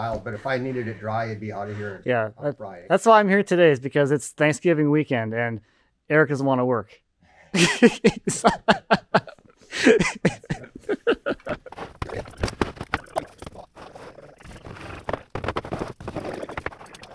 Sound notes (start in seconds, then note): 8.5 laughing